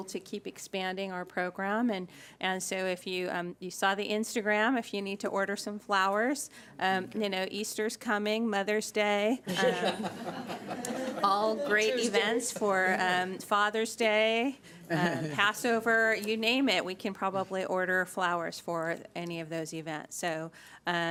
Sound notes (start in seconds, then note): 9.5 laughing